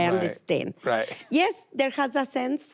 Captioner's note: chuckles